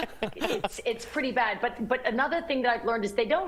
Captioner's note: laughter